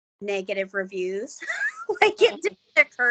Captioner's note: laughing